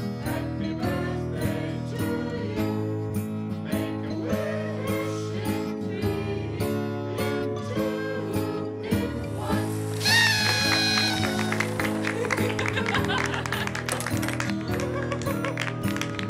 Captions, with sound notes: Happy Birthday to you make a wish in three in two in one (party horn, laughter, applause)